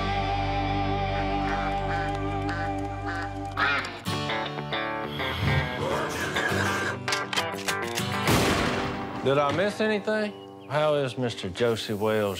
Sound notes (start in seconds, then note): 1.1 duck call quack; 1.1 duck quacking; 8.2 shotgun blast